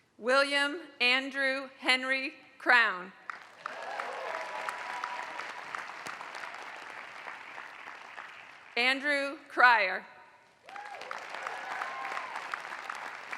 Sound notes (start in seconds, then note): 3.2 applause; 10.6 applause